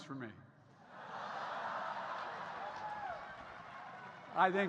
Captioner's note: laughter